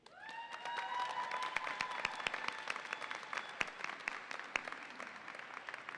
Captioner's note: audience applauds and cheers